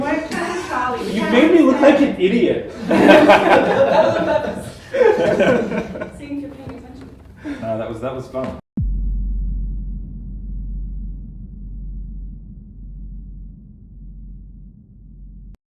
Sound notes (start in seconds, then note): 2.7 laughter